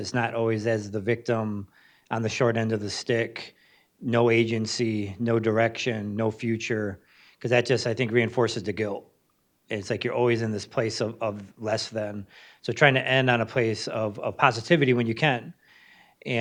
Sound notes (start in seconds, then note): none